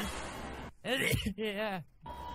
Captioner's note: laugh; another poodipie sneeze